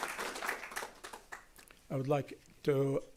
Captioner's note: applause